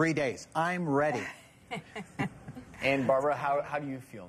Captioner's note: laughing